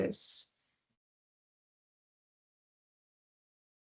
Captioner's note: silence